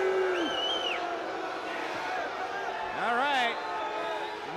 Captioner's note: crowd cheering